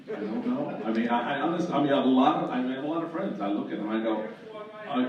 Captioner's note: shouts from the audience